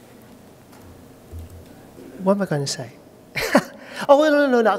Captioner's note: laughter